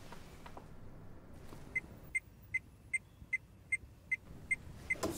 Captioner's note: beeping